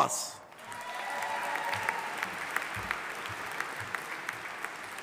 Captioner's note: audience applauding